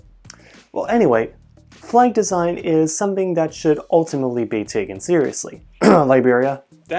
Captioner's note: cough